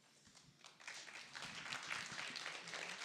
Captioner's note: applause